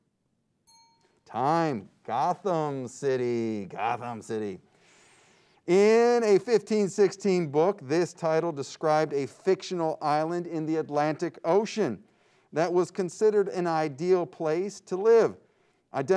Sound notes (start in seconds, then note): 0.6 timer dings